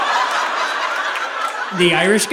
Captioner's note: audience laughing